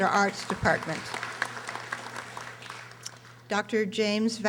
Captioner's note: audience applauding